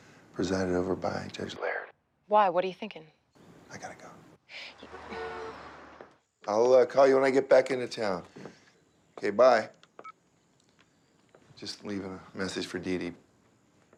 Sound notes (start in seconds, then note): 10.0 cell phone beeps